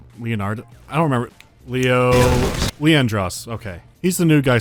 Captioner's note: snaps fingers